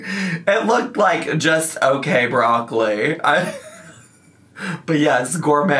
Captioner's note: laughs